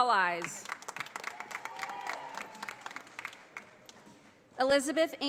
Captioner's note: audience applauding